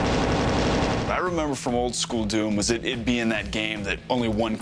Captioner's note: gunfire